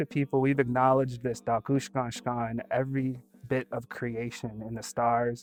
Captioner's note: speaking Dakota